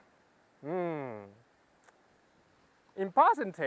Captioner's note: hmmm